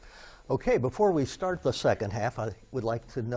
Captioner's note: none